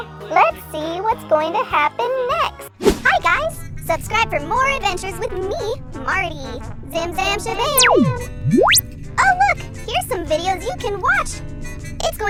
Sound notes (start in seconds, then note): 7.7 warping noise